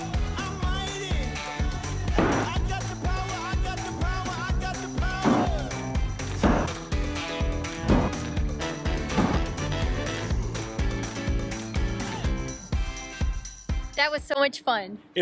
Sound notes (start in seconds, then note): 6.3 axe chopping